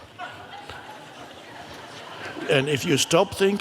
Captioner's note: audience laughs